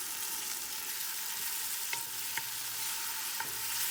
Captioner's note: sizzling and stirring sounds